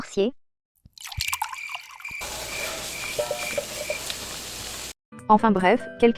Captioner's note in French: crissements de grillons, bruits de fonds